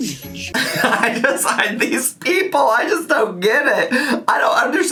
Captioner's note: laughs